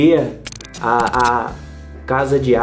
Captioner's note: electrical spark